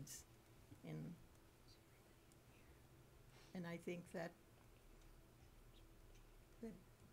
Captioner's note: whispering